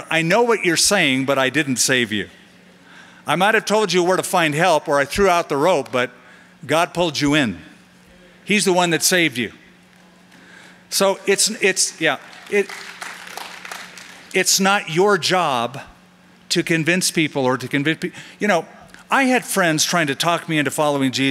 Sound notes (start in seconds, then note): 11.9 light applause